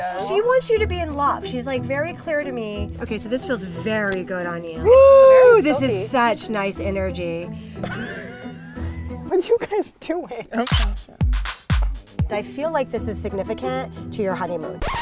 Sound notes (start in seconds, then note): 7.8 laughs; 10.6 camera clicks; 14.8 record scratch